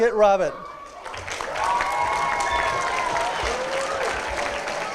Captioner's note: applause